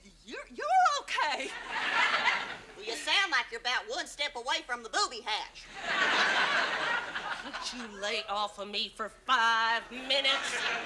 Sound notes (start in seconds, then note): 1.5 audience laughs; 7.2 audience laughs